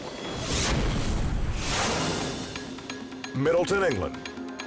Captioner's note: squashing sound